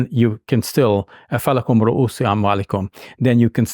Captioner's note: speaks in Arabic language